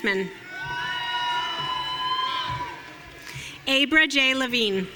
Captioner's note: audience cheering